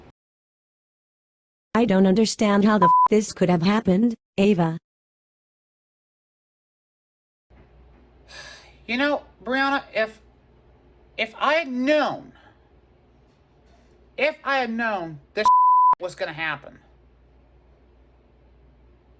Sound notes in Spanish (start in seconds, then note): 2.8 bip; 15.4 bip